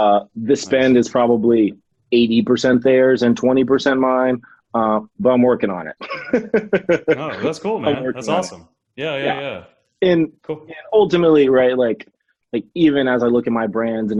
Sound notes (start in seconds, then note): 6.0 laughs